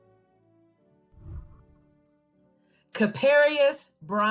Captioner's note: whooshing